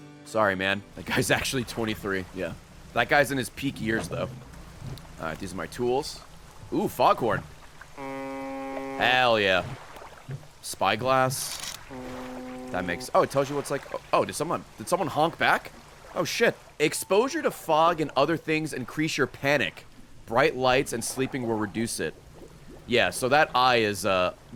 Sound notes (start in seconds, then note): 7.9 foghorn; 11.8 distant foghorn